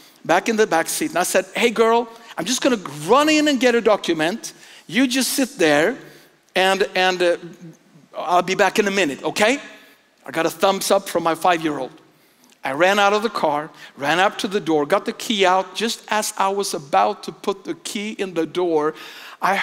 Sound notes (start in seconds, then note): none